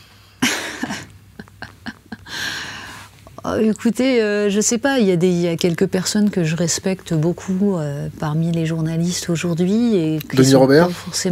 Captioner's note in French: Rires